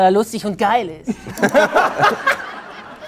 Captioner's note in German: Lachen